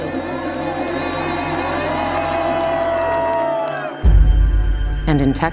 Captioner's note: crowd clapping; dramatic music